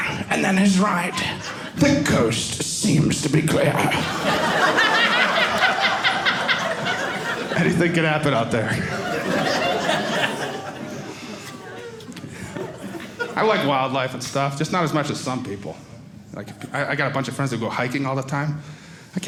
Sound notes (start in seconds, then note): 4.7 audience laughing; 8.6 audience laughing